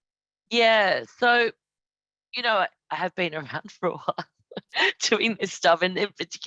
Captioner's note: laughs